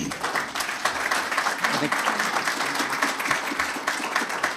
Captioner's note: audience applauding